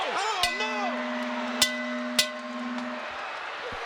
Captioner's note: bell ringing